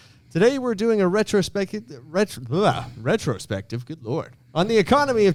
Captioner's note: scoffs